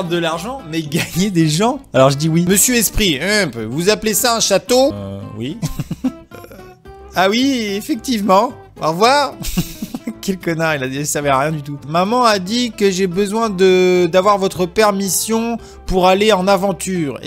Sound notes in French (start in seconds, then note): 0.9 rires; 5.6 rires; 9.6 En riant